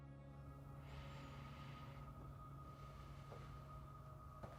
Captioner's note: Marie breathes deeply